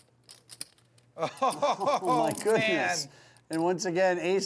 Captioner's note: laughs